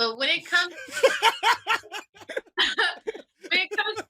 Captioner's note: all laugh